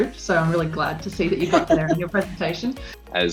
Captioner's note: woman laughing